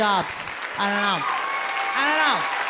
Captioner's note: audience cheering